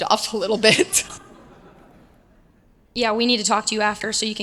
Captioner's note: laugh